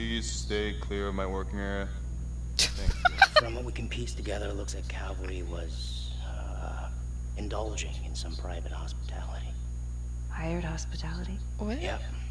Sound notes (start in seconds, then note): 2.6 laughs